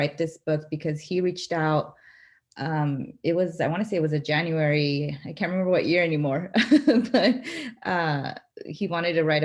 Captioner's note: laughter